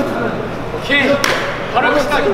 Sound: clap

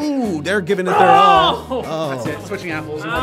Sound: shouting

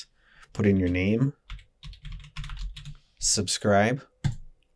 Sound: TYPING - clickity clack

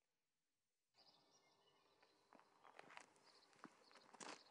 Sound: birds chirping

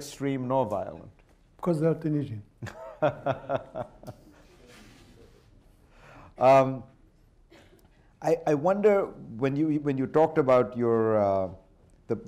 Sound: laughter

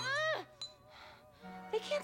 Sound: scamreing and ringing bell

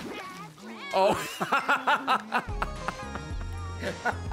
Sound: laughs

